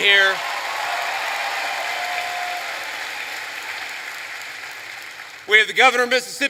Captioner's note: applause